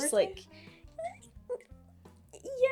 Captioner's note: noises of gay consideration